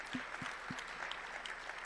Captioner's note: applause